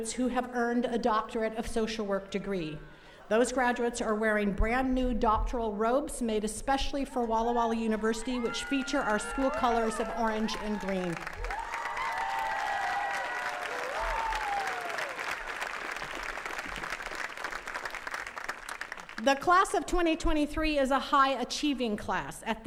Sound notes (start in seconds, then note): 11.5 attendees cheering and clapping